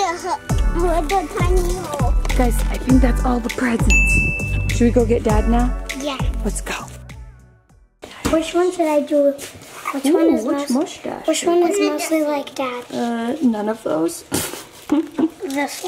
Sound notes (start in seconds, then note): 3.9 bell dings; 14.5 laughs